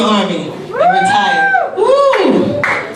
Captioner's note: man cheers